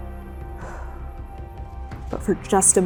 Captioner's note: exhaling